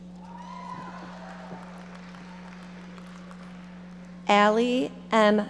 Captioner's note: audience applauding